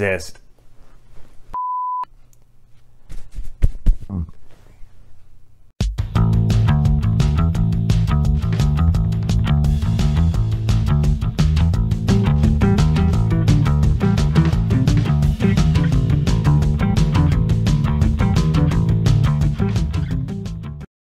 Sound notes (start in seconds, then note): 2.7 burp